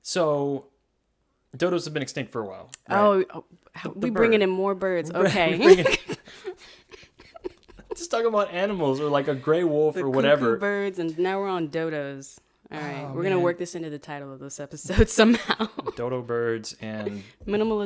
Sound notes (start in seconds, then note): 5.2 laughing